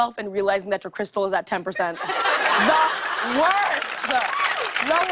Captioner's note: laughter; applause